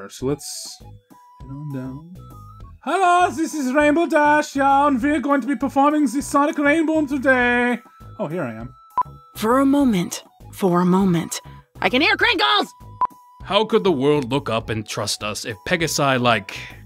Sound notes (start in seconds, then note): 2.7 mock German/Austrian/whatever accent